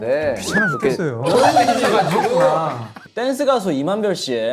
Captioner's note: laughing